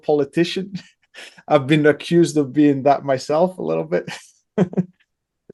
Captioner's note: laughs